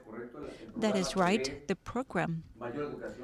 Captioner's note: through translator